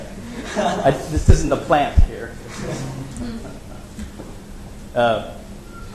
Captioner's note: laughs